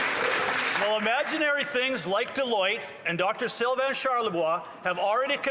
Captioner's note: some Applause